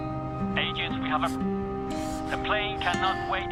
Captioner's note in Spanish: Voz en la radio